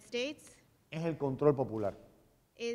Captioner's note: speaking in Spanish